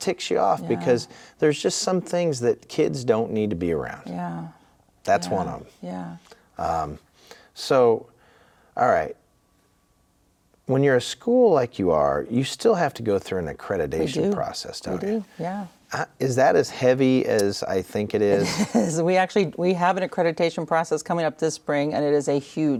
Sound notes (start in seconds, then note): 18.3 chuckling